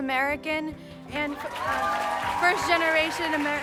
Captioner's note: cheers and applause